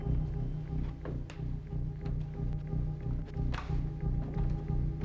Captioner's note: stairs creaking